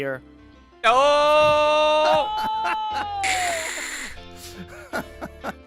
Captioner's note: snickers